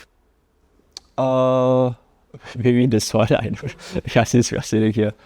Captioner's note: laughs